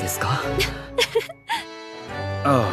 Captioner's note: laughs